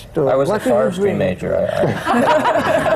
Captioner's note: laughter